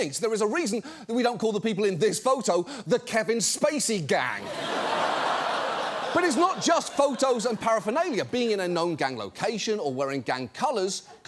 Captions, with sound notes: There is a reason that we don't call the people in this photo "the Kevin Spacey Gang." (STUDIO AUDIENCE LAUGHS) But it's not just photos and paraphernalia. Being in a known gang location or wearing gang colors